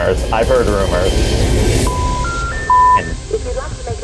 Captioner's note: engaged tone beeps